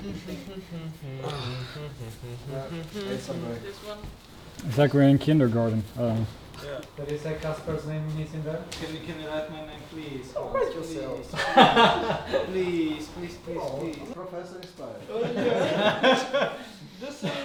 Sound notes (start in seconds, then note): 0.0 humming; 3.3 speaking quietly; 10.4 speaking quietly; 13.6 silly voice; 15.1 group laughs